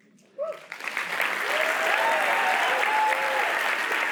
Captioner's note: applause